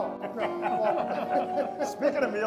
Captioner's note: everyone laughs